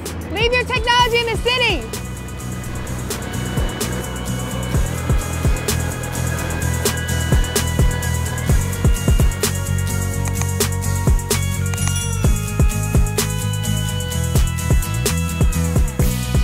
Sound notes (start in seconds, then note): 2.8 engines roar; 4.8 country hip-hop music